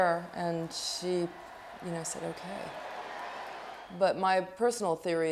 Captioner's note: crowds cheering